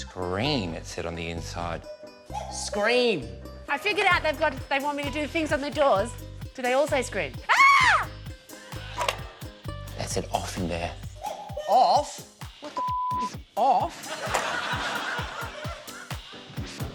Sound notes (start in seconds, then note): 7.5 screams